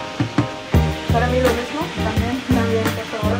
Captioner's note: Spanish